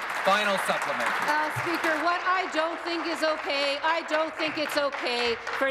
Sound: applause

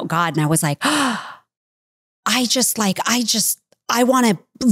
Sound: gasps

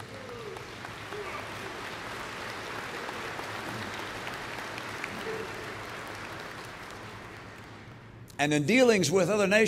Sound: applause

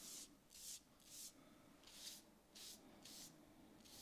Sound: brush scratching

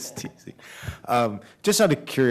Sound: laughter

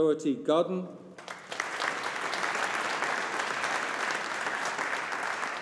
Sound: audience applauding

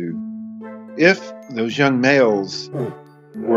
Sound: roaring

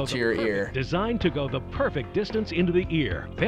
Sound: voice-over

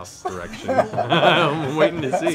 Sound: laughing

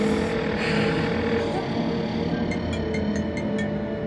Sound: phone ringing

